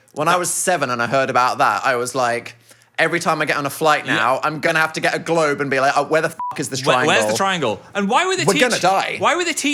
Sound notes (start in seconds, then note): 6.4 beep